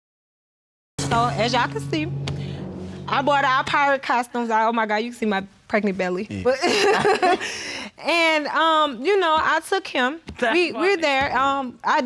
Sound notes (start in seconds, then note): 6.4 laughs